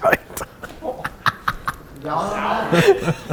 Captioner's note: laughs softly